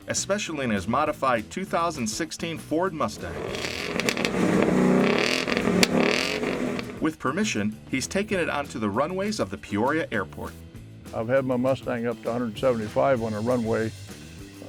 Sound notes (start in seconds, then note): 3.0 engine revving